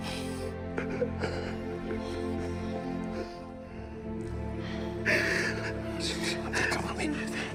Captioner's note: gloomy music continues; sobbing softly